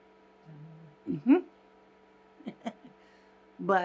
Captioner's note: laughing